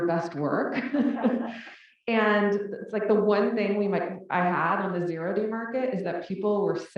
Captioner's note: laugh